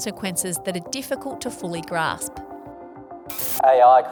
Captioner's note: radio static